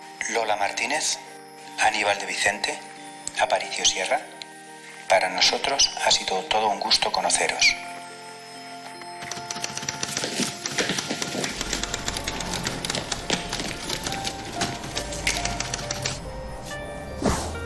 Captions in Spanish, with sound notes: Lola Martínez, Aníbal de Vicente, Aparicio Sierra, para nosotros ha sido todo un gusto conoceros". (Máquina de escribir)